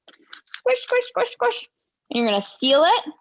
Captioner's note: squishing